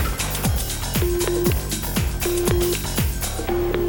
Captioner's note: beeping